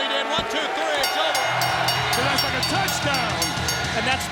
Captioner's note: bell rings